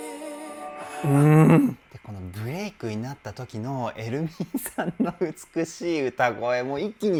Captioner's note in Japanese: 笑い